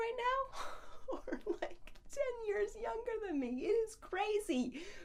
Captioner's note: laughs